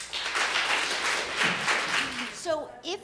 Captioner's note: audience applauding